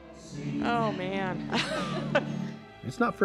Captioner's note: laughs